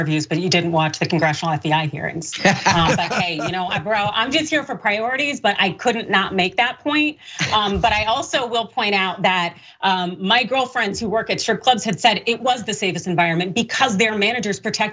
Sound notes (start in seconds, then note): 2.6 laugh